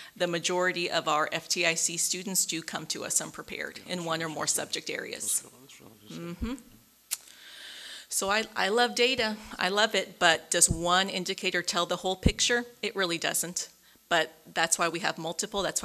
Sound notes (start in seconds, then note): 5.1 murmurs